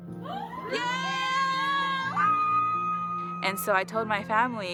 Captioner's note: family members cheering